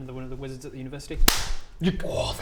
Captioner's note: clap!